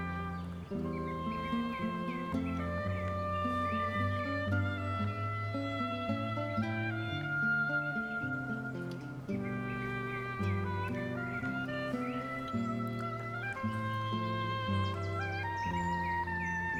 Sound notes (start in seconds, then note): 3.2 birds chirping; 3.2 mellow orchestral music